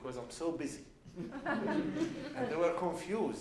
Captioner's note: laughs